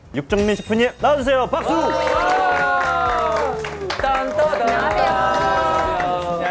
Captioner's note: CLAP clap CLAP